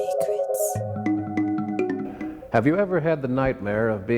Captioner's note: lady whispering "secrets"